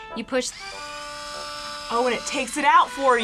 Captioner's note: corksrew whirring